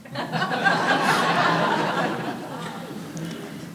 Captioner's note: audience laughing